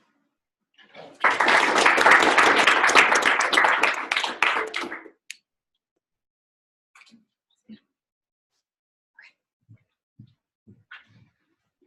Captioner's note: applause